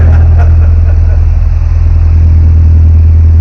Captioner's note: both laughing